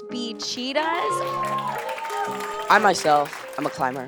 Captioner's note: audience cheering